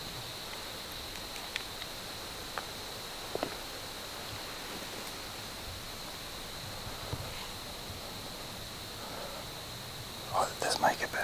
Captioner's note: wind